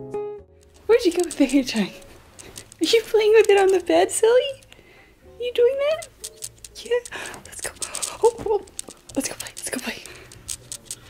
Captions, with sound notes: Where'd you go with the hair (speaks faintly) ? Did you play with it on the bed silly? You're doing that? Yeah, let's go. Oh, let's go play, let's go play.